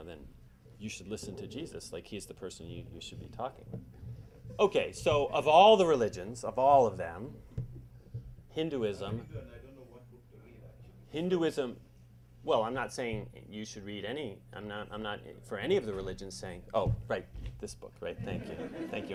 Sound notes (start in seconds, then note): 9.2 muffled chatter